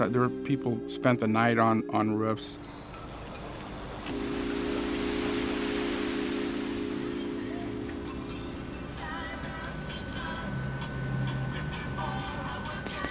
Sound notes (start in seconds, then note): 3.6 rain falling